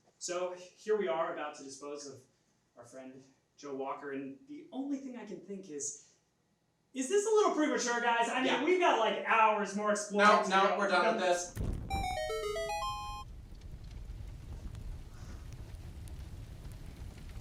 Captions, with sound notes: So here we are about to dispose off our friend, Joe Walker and the only thing I can think is, is this a little premature guys? I mean, we've got like hours more exploring to do-- - No we're done with this. (soft music) (flame roars)